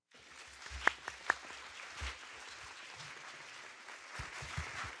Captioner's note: audience applauding